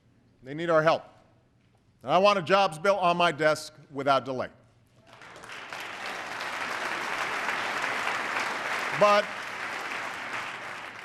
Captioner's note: applause